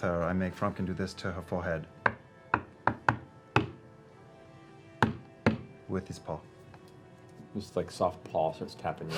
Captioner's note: knocking